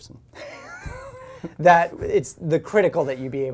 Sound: both laugh

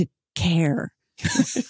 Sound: laughing

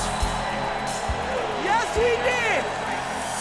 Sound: bell dinging

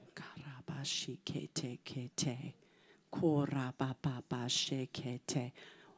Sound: speaking foreign language

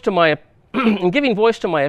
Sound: clears throat

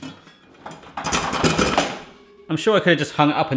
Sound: machine clattering

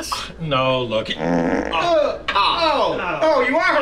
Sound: farting

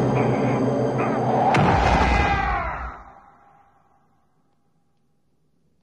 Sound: exploding; yelling

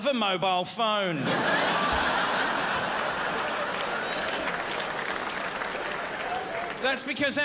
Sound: crowd laughs

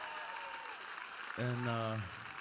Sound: cheers and applause

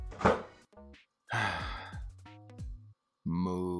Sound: sigh

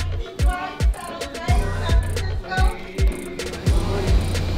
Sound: background chatter

